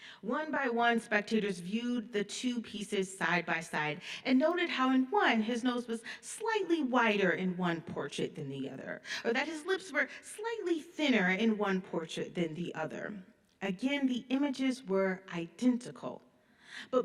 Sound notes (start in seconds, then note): none